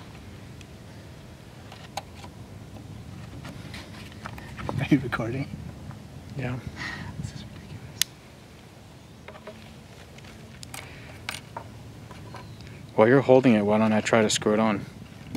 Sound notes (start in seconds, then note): 4.2 laughs; 6.7 sigh